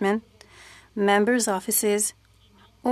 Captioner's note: speaking French